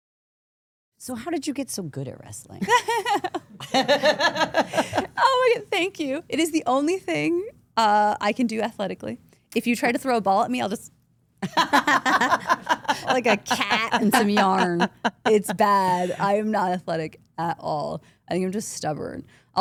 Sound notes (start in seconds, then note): 2.6 laughing; 11.4 all laughing